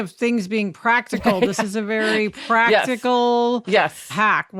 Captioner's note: laughs